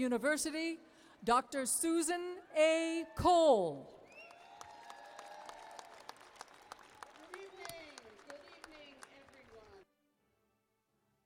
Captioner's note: applause